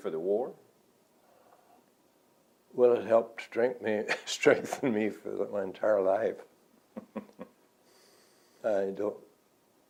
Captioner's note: laughs